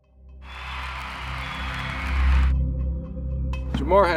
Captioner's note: upbeat electronic music; cheering